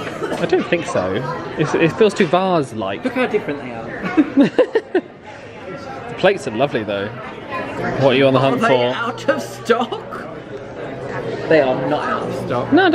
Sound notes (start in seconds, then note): 4.0 chuckling